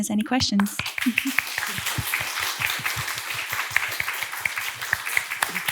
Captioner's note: audience clapping